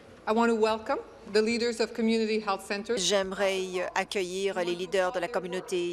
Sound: speaking in French

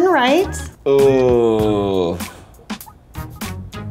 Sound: grunts

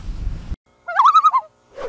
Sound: loon calls

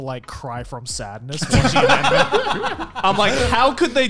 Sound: laughing

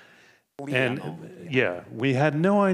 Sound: panelist speaking faintly

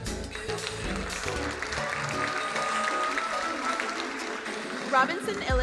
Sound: crowd applauding

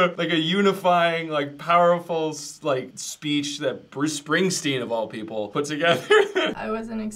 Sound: laughs

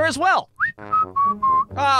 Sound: whistling

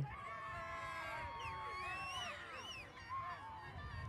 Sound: audience cheers

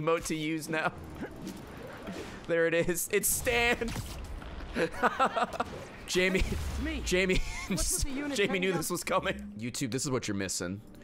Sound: laughs; laughs

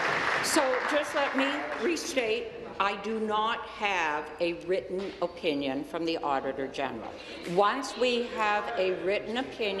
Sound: applause

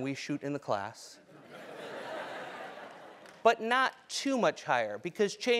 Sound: laugh

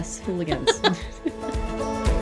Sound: everybody laughs; upbeat music

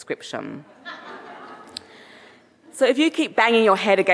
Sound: audience laughing

